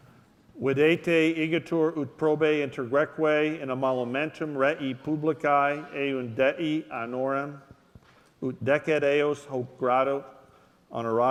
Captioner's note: speaking latin